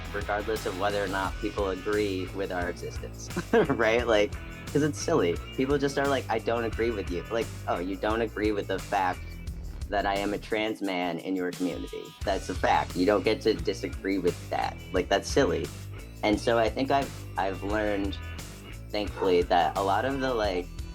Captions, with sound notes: regardless of whether or not people agree with our existence. (Chuckles) Right? Like, because it's silly. People just are like, I don't agree with you. Like, oh, you don't agree with the fact that I am a trans man in your community. That's a fact. You don't get to disagree with that. Like that's silly. And so I think I've learned, thankfully, that a lot of the like,